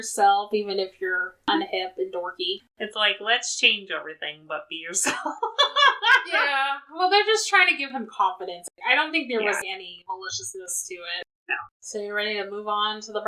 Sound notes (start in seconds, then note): 5.0 laughs